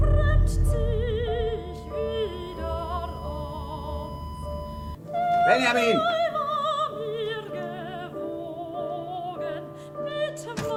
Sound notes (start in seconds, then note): 2.0 machinery beeps; 5.6 yelling in German